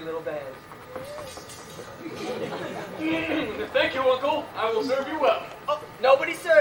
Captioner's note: giddy, then clears throat